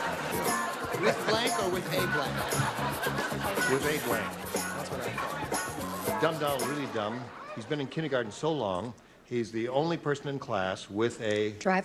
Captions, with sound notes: [LAUGHTER] WITH BLANK OR WITH A BLANK? [LAUGHTER] WITH A BLANK. THAT'S WHAT I THOUGHT. "DUMB DONALD IS REALLY DUMB. "HE'S BEEN IN KINDERGARTEN SO LONG, HE'S THE ONLY PERSON IN CLASS WITH A--"